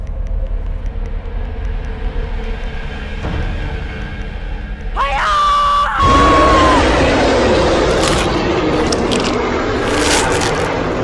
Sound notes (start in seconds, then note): 4.9 auntie screams; 5.0 bear growls